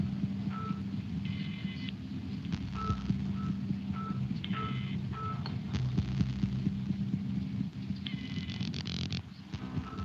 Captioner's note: beeping